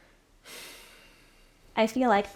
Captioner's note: sighing